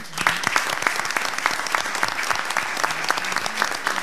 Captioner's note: all applauding